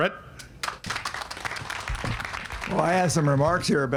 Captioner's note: audience applauding